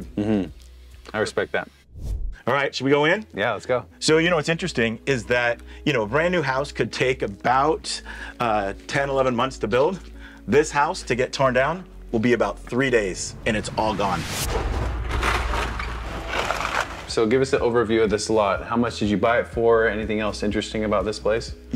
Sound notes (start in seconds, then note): 14.9 excavator crunches